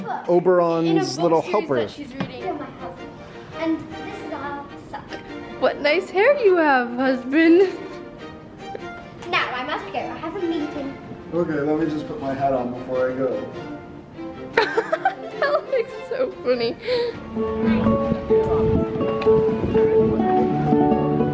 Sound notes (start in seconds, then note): 14.5 laughs; 18.0 happy guitar music